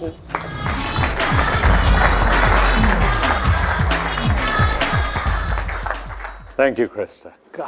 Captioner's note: applause